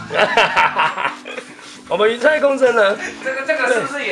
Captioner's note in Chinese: 賊笑中